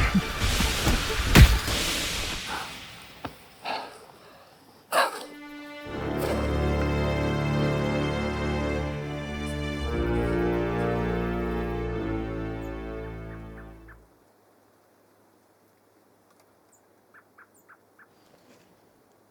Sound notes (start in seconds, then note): 0.4 thud; 3.5 heavy breathing; 13.3 birds chirping